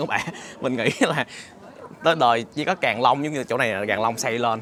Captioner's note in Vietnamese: tiếng cười